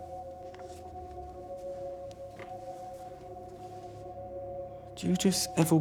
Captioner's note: pensive music continues; paper rustling